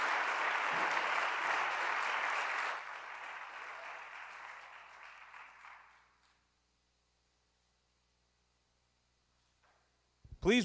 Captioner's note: applause